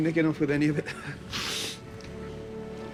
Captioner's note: sniffs